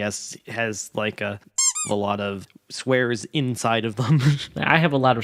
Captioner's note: laughs